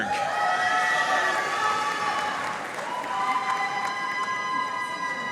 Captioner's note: audience cheering and applauding